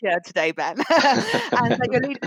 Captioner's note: laughter